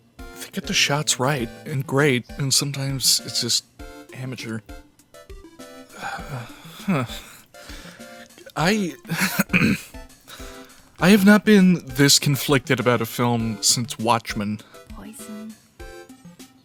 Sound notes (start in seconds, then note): 9.0 clearing throat; 9.0 chuckle